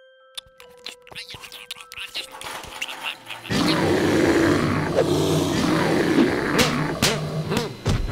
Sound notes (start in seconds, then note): 5.0 bear growling